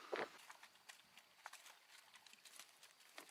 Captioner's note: breathes uneasily; paws pattering; insects chittering